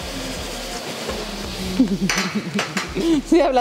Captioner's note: laughs